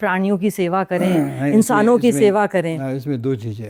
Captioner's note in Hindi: गला साफ़ करने की आवाज़